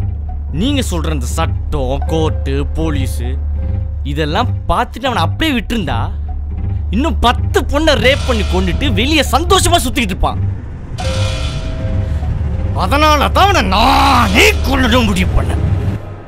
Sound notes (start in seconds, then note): none